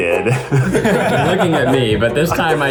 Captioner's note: everyone laughs